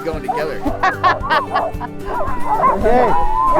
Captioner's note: laughs